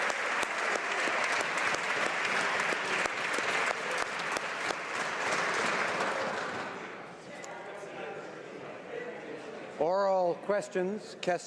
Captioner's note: applause